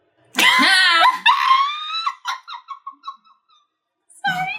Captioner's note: laughing